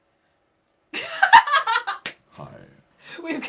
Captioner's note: laughing